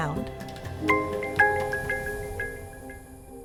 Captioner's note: doorbell chime